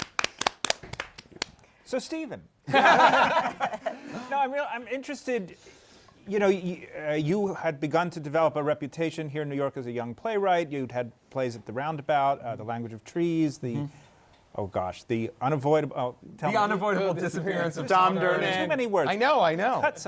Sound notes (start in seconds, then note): 0.0 applause; 2.6 laughter